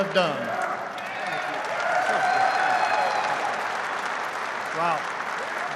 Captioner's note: applause